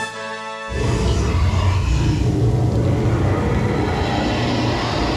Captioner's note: dragon growls